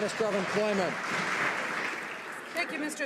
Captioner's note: some Applause